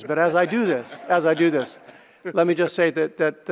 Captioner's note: group laughs